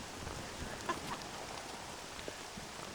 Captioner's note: laugh